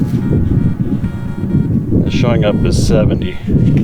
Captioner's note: soft beeping